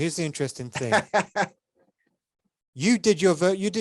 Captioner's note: laughs